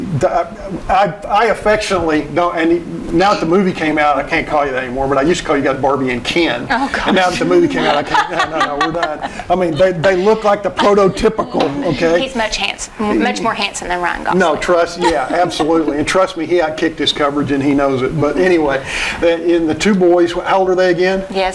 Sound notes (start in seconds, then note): 6.2 laughing